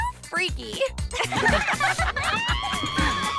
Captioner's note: the spies laugh; mandy screams